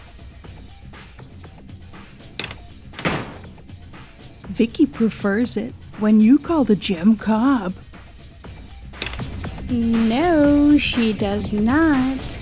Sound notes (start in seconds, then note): 9.0 door opens